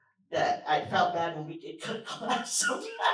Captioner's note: laughter